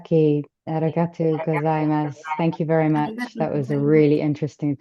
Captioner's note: speaking japanese